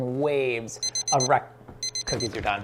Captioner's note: timer beeps